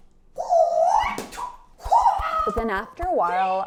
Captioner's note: nunchuck whirls